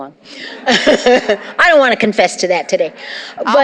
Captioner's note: laughter